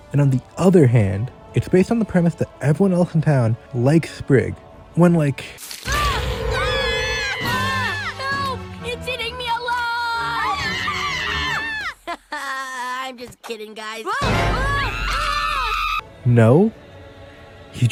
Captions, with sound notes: and on the other hand it’s based on the premise that everyone else in town likes Sprig when like *Screaming* “Help, it’s eating me alive!” *More Screaming* “Ha ha, I’m just kidding guys-” *Further Screaming* No.